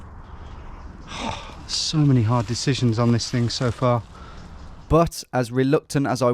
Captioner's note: sighs